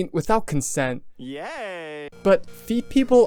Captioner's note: my favorite "yayyy" sound effect ever